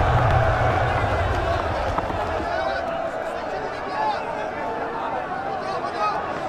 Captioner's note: roar of chatter